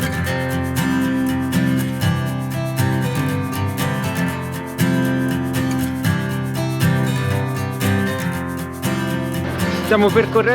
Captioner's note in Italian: Applauso